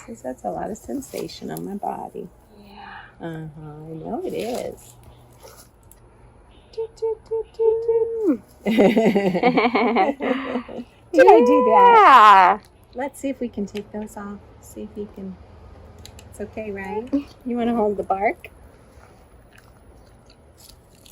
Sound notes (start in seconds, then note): 8.6 laughter